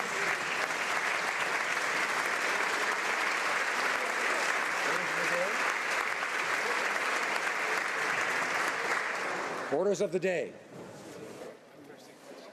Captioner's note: applause